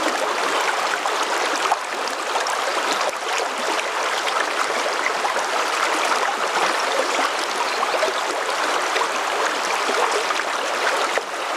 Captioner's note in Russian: шум реки